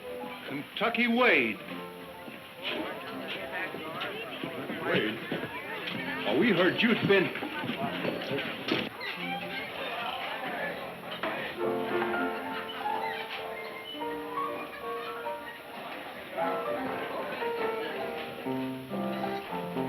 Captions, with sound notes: - Kentucky Wade! - Wade? But we heard you've been- (people chattering)